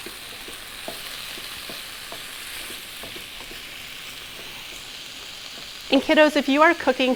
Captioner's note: meat sizzling and spoon stirring in pan